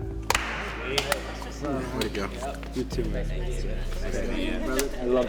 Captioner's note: participants conversing